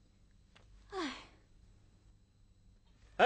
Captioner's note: sighed